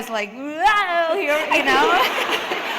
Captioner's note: laughter